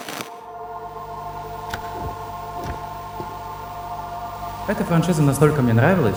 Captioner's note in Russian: шум телевизора в далеке